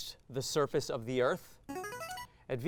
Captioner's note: signaling device tone